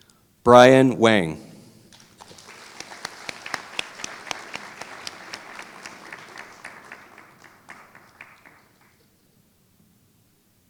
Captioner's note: applause